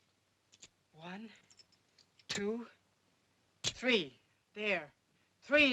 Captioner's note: coins clinking